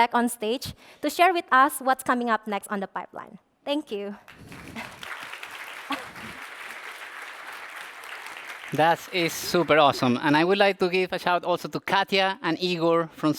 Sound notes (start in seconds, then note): 4.2 applause